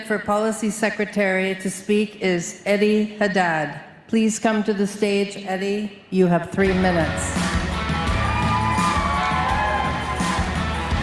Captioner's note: applause